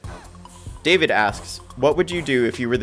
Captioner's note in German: Voice-over